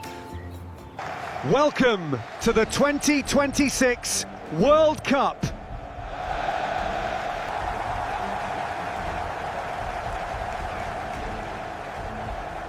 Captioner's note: cheering